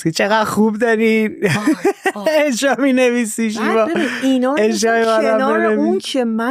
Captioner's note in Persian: خنده